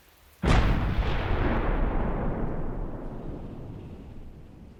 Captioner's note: artillery explodes